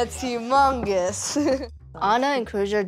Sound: chuckles

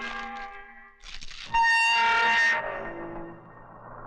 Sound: door Opens

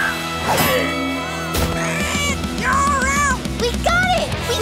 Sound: squawking

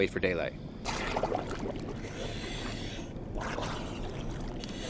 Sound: water bubbling; breathing loudly

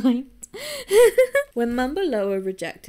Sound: giggles

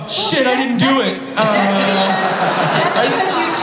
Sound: everybody laughs

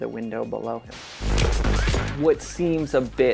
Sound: static noise

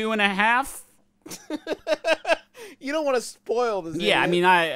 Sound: laughs

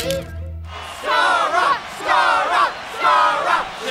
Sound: crowd cheers

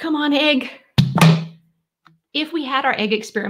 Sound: bottle pops

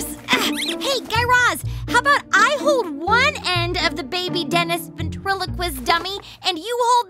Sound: soundbite of squeaking; struggling

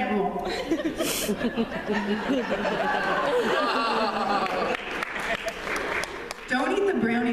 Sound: laughter

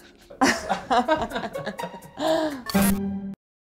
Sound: chuckles

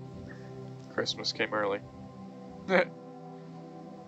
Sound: laughs

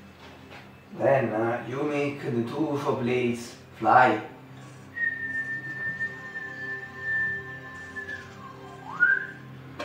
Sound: whistle

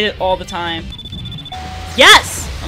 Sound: timer beeping, Ping

